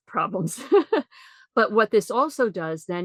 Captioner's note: laughs